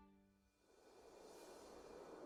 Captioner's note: wind